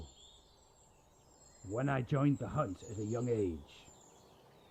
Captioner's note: none